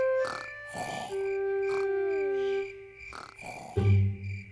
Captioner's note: george snoring